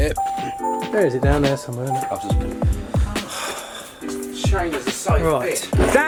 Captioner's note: sighs